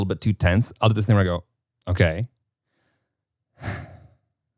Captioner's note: sighs